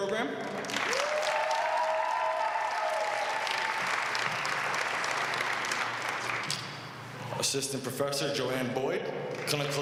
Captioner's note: applause